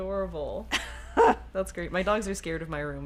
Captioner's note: laughs